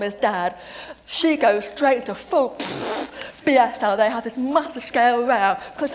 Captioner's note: pffff